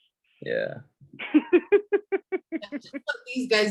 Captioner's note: laughing